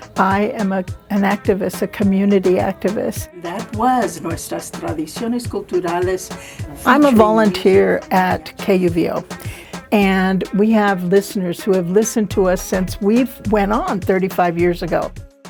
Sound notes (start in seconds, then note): 3.9 speaks foreign language